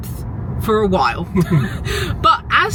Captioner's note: chuckling